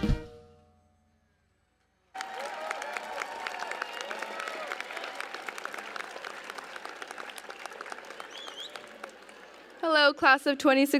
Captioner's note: applause